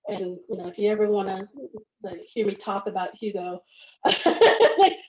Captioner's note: laughs